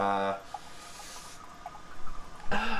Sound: inhale

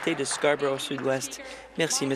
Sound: applause

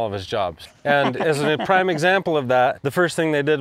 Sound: laughs

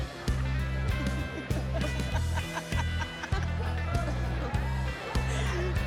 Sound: laughter

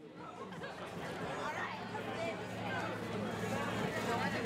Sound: people talking

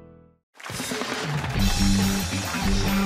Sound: cheers and applause

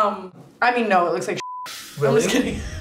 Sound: beep

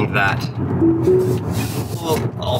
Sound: Tesla chimes

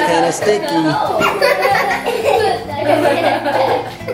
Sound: laughter

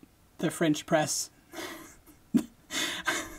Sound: laughing

